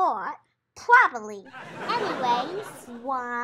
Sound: audience laughs

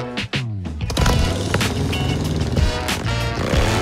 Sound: engines revving

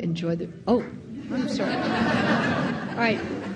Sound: audience laughing

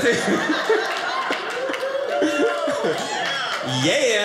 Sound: audience laughing

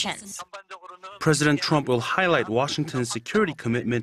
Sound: Korean

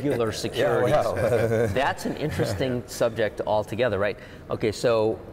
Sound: laughing

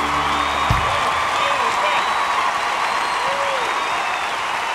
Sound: cheers and applause

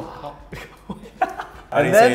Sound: laughs

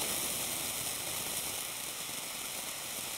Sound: louder static

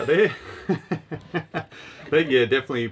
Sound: both laughing

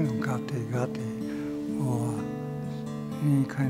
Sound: speaking in foreign language

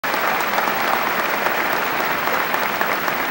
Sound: applause

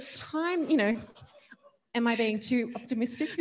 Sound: laughs

